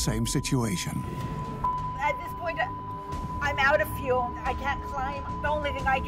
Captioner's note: beeping